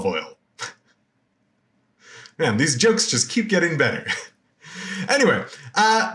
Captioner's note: laughs